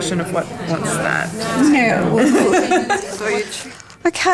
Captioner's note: participant chatter